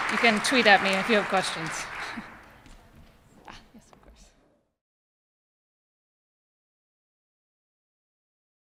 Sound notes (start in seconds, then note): 1.9 applause